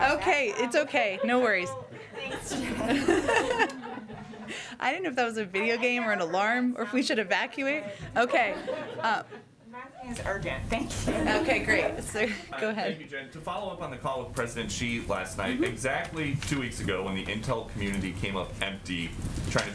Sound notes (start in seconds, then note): 11.6 laughter